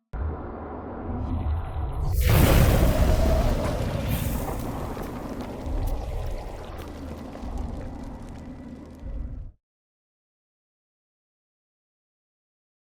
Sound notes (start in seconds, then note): 0.3 air whooshing; 0.3 dramatic music; 5.1 liquid burbling